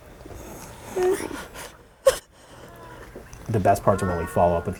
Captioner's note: speaker crying